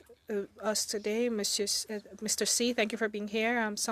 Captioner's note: speaking French